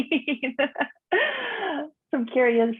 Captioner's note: laughing